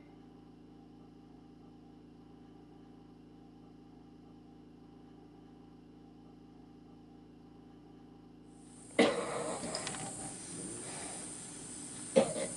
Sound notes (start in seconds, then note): 0.1 ventilator humming; 8.7 oxygen hissing; 8.8 coughing